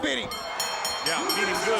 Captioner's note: bell ringing